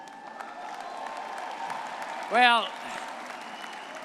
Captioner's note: audience cheering and clapping